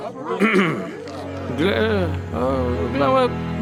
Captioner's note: Moses clearing throat